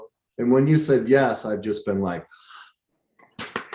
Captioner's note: claps